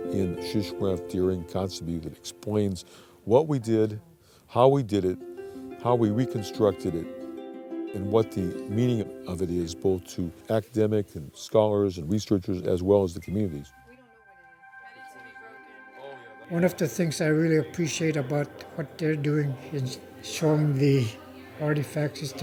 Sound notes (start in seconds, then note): 14.2 people chatting